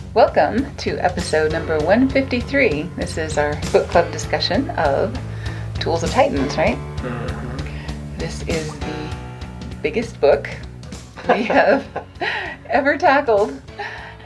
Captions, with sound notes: - Welcome to episode number 153. This is our book club discussion of Tools of Titans, right? - Mm-hmm. - This is the biggest book we have (laughing) ever tackled.